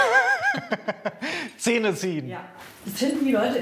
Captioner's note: laughing